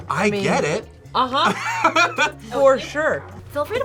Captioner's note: Thomas laughs